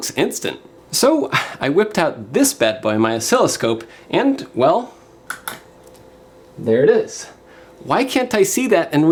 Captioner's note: click